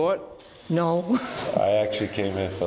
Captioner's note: laughs